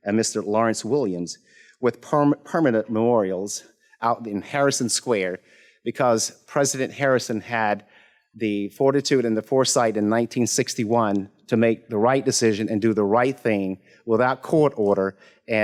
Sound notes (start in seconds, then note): none